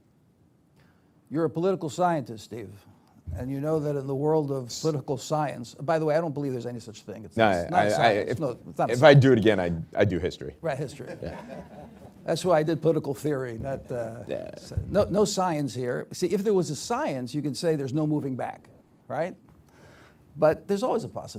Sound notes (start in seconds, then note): 10.9 laughter